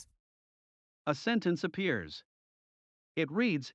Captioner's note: voiceover